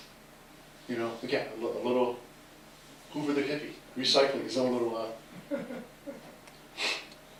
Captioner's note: laughter